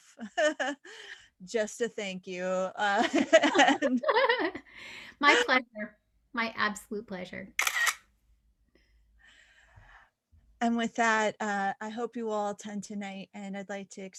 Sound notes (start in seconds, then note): 3.1 laughing